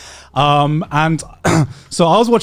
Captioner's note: clears throat